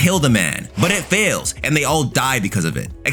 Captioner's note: fire whooshing